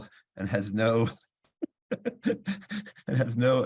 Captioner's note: laughs